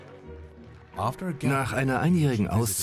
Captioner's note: voiceover